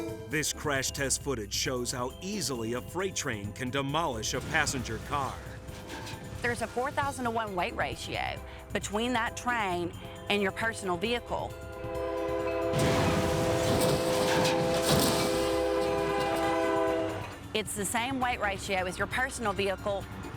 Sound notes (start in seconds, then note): 11.3 train horn honking; 12.6 vehicles thudding